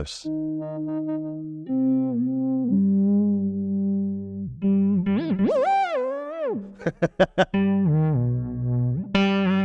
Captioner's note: laughs